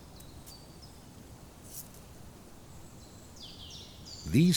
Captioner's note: birds chirping